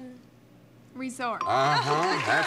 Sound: bell; applause

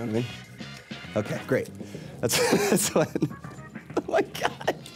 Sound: laughing

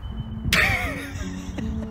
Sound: laughter

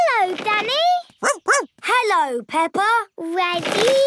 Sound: snorts; barks

